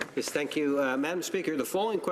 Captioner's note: speaking in French